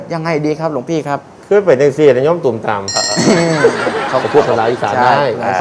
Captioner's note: northeast dialect